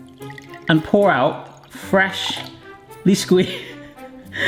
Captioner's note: juice trickling; laughs